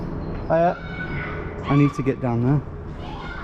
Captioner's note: child screams